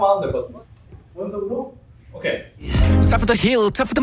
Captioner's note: confident